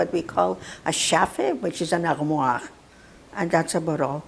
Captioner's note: non-english